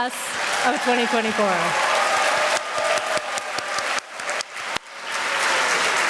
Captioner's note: applause